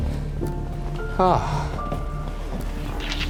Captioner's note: grunts; sighs; gentle apprehensive music